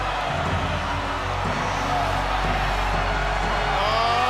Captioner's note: crowd cheering